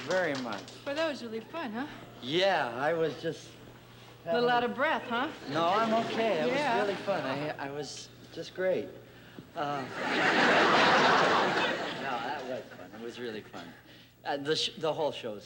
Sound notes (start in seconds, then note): 9.8 laughter